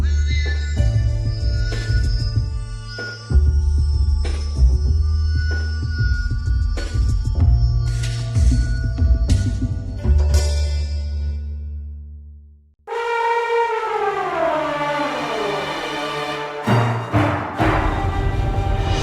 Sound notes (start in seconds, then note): 12.1 elephant trunk roaring; 15.4 dramatic music